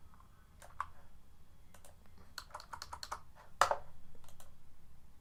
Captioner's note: keyboard clacking